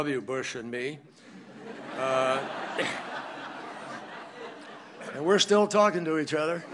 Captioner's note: laughter